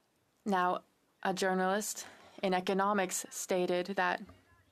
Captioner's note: speaking French